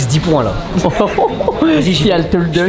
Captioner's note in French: rire